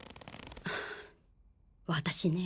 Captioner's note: sighs